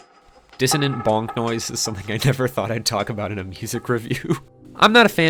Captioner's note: laughs